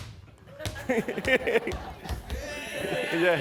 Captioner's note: laughter